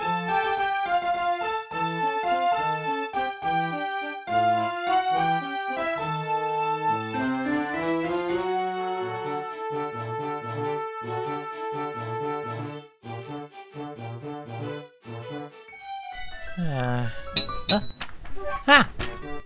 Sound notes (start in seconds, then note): 16.5 sighs